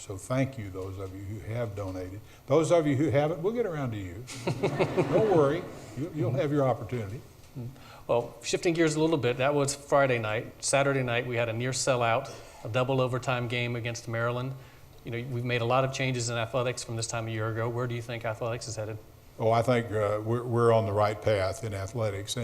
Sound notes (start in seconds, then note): 4.3 audience laughs